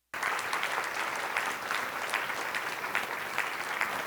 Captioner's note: audience clapping